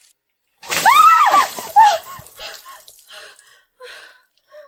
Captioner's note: anger noises